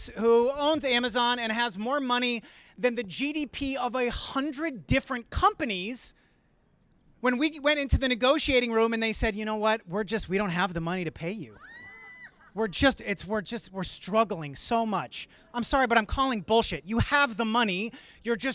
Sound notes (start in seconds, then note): 11.6 crowd gasping; 11.6 crowd laughing